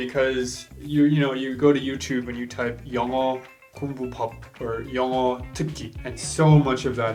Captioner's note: speaks foreign language